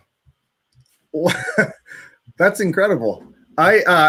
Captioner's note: chuckles